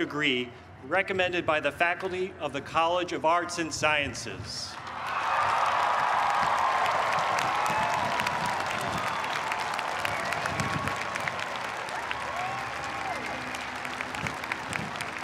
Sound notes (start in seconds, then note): 4.8 cheers and applause